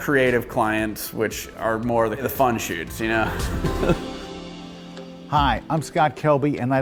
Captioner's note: laughs